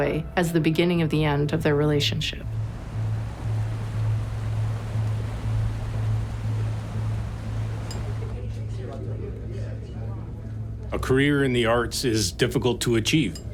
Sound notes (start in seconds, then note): 8.1 people chattering